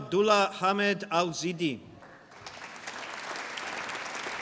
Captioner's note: applause